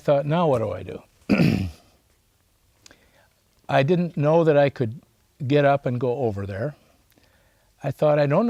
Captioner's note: clears throat